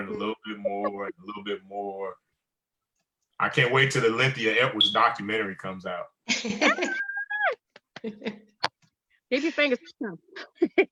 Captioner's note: laughter